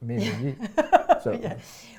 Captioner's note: laughs